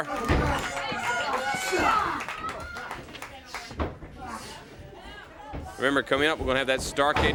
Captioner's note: crowd cheering